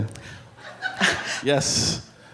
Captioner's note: audience laughing